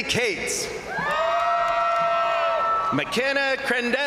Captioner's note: crowd cheering; crowd applauding